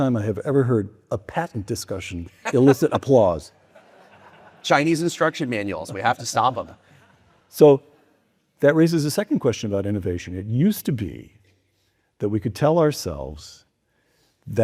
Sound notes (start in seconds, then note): 2.4 Palmer laughing; 3.6 audience laughing